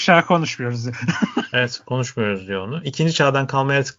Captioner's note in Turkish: kahkaha